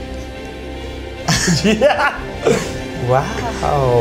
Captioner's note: laughs